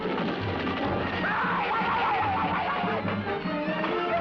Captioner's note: screaming